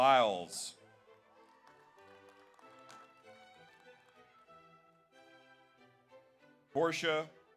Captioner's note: audience applauds; audience cheers